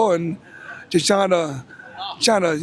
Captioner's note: none